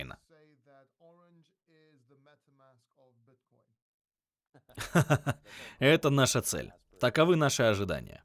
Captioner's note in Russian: смеется